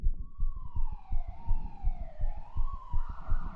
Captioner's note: sirens